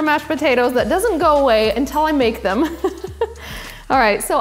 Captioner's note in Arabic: يضحك